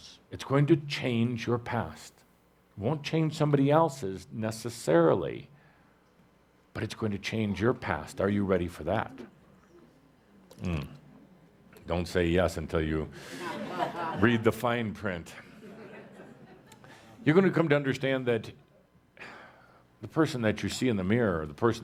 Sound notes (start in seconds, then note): 9.7 audience responds; 15.4 laughter